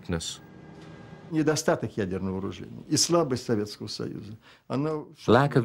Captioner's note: speaking Russian